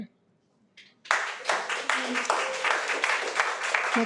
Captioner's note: audience applauding